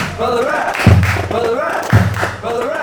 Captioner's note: clapping